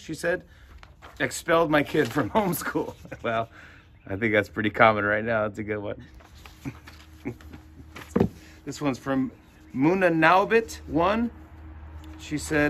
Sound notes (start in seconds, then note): 6.5 chuckles